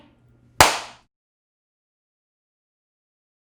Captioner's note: clap sound